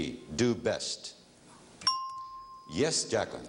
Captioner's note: ringing bell